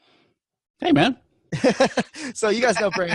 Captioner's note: laughing